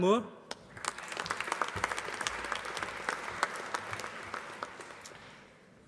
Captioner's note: applause